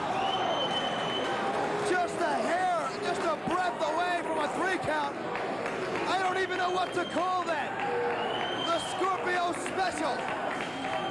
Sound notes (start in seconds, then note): 5.3 cheers and applause